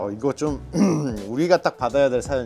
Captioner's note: ahem